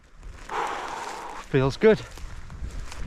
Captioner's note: exhales